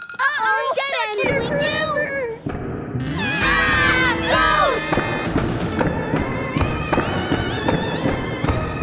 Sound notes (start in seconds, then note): 1.0 shouting; 3.2 screaming